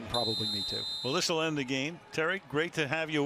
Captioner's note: whistle